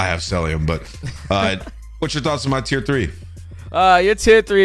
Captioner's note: chuckles